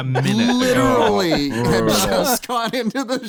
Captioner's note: laughing; laughs